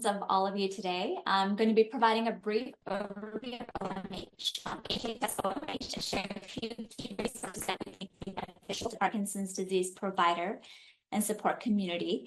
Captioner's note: audio glitch